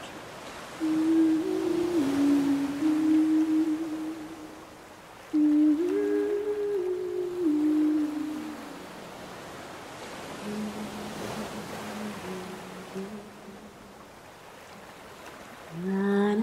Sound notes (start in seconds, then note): 5.2 humming